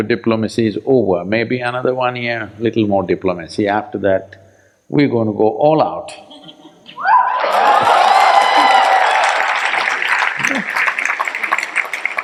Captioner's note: cheers/Applause